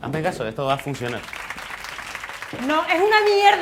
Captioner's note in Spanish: Aplausos